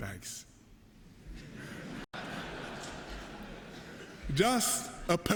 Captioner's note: laughter